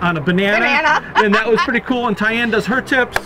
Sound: laughs

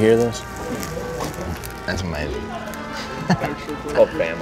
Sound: crunching sounds

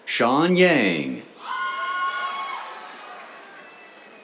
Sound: cheers

